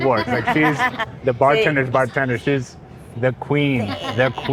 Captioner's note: speaks in Spanish